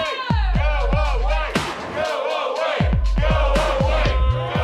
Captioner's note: audience chanting